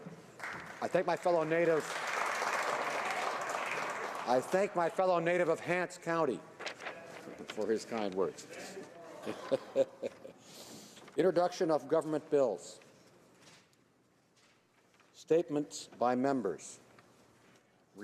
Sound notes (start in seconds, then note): 6.0 applause